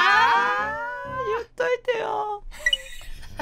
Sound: tears

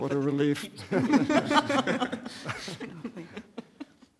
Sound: laughter

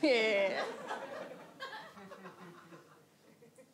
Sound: audience laughs

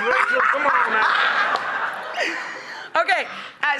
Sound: laughter

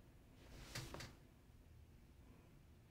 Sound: bed creaks

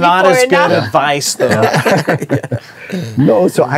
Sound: group laughing

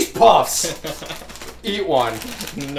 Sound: laughing

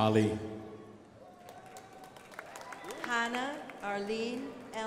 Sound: crowd applauding

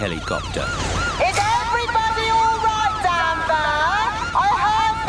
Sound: over megaphone

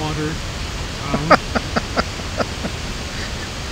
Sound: chuckle

